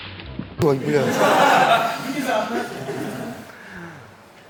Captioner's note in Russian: Смех